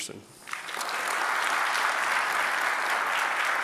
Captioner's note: applause